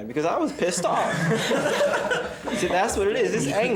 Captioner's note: students chuckling